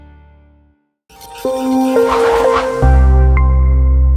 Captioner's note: air whooshing